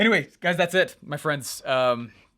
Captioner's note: inhales deeply